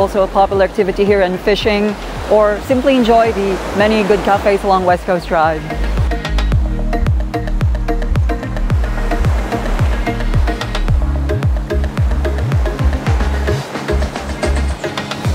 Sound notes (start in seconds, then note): 8.3 sound of waves